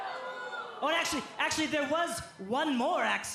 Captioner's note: crowd chatter